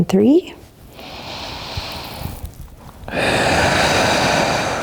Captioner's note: breathing deeply